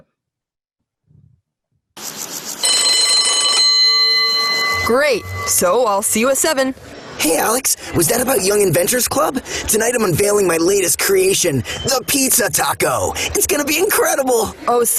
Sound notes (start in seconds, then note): 1.0 bells rings